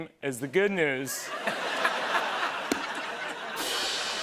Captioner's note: laughter; rim shot